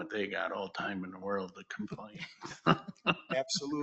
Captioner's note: laughs